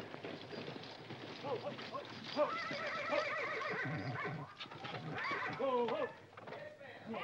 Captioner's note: horses & carriage arriving outside; commotion & horses neighing; Katherine yelling in the hallway